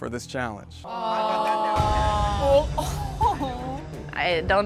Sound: groaning

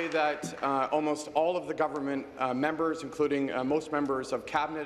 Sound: applause

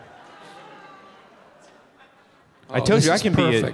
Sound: audience murmuring and other movement

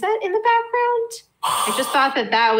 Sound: sighs

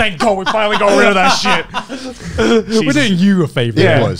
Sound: everyone laughs

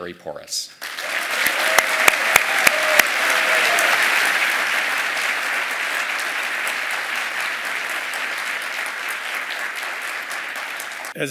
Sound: applause

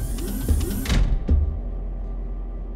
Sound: door stops

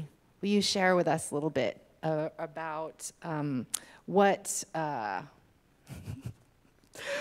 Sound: laughs

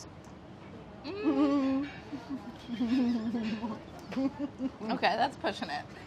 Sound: laughs

